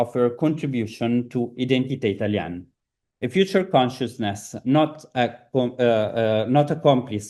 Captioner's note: italian